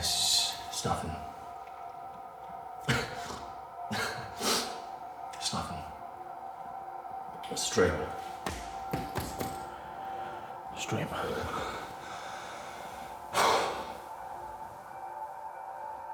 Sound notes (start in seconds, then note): 2.8 Danny coughs; 13.3 Danny sighs